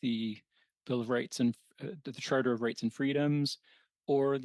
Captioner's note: speaking French